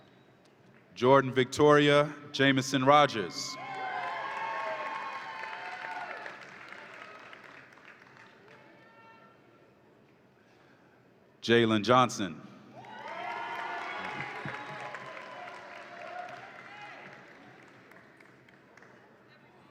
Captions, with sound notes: Jordan Victoria Jameson-Rogers. (audience applauds and cheers) Jaylen Johnson. (audience applauds and cheers)